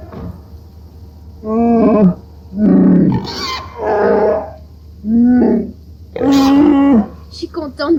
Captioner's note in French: en Shyriiwook